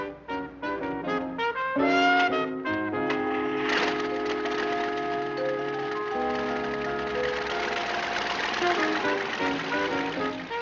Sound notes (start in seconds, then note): 0.3 downbeat jazz music; 6.3 engine rumbling